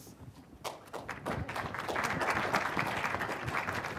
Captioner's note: crowd clapping